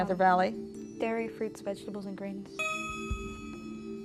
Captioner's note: ding